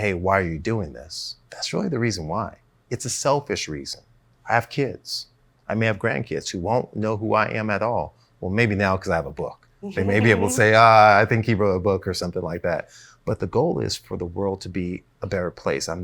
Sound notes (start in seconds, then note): 9.9 laughs